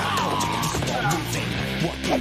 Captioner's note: door opening